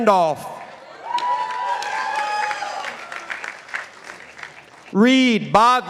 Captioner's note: participants applauding